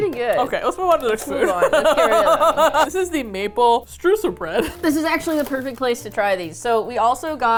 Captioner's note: laughs